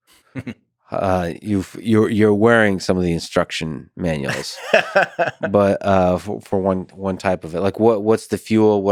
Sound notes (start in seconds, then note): 0.3 Tim chuckles; 4.3 Tim chuckles